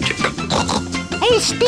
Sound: snort

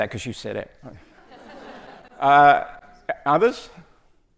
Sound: audience laughs

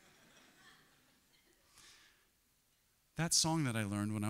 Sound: congregation laughs

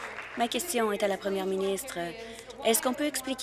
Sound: applause

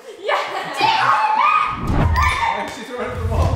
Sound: yelling

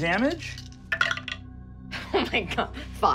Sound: rolling dice

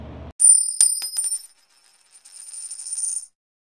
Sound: coin clanking

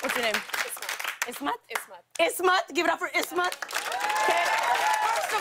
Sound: cheers and applause

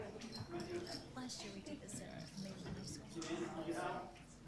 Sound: group chatter

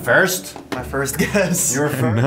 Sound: laughs

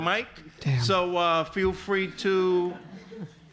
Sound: audience laughs

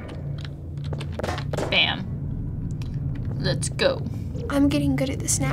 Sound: clang

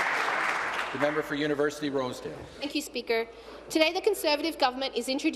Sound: applause

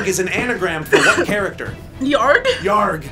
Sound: coughs

